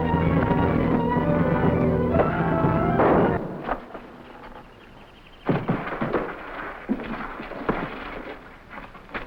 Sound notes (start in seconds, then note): 3.0 animals chattering; 3.0 gunshot firing